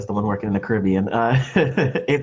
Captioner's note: laughs